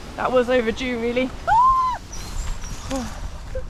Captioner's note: girlish scream; sigh